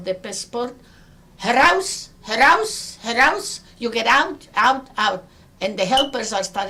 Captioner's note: speaks in foreign language